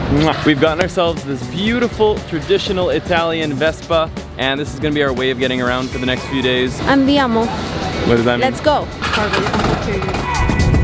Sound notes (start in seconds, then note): 7.1 speaks in foreign language; 9.2 engine revs